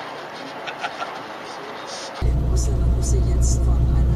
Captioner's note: radio playing